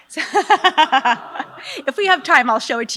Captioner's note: laughs